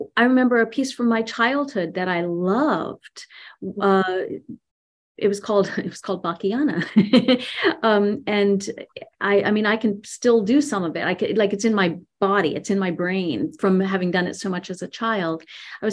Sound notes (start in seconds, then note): 7.8 laughs